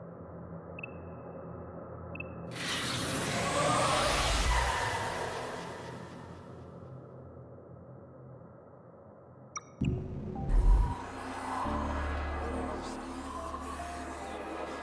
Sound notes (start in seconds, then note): 3.8 screaming; 9.8 dramatic music